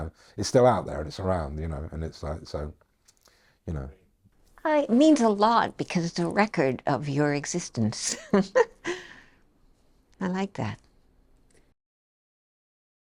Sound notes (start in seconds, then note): 8.0 chuckles